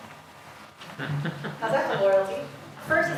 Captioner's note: student laughs